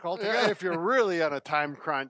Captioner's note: laughing